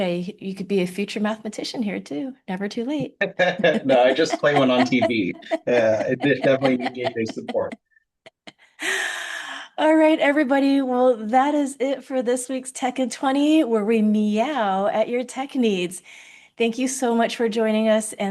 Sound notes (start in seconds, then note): 3.0 laughing; 3.0 laughs